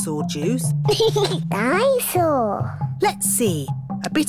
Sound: giggles

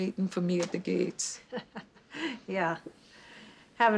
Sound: chuckles

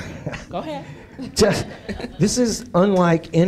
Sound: laughs

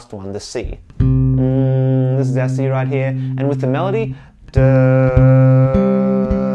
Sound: hums C; hums C over melody

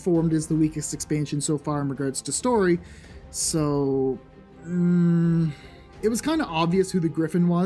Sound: concerned groan

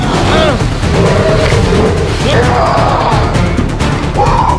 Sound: werewolf snarls

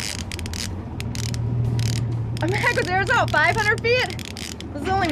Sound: reel cranking

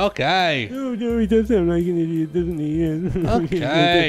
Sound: laughs

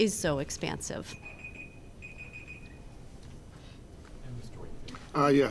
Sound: timer beeping

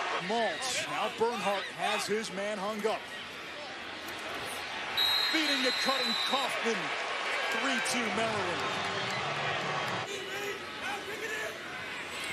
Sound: loud cheering

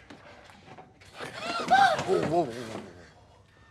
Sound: gasps

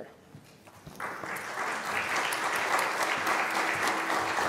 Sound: applause

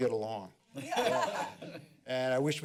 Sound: laughter

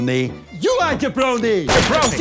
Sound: gunshot

